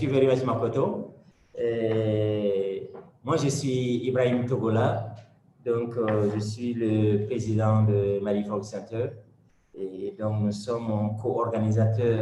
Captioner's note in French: French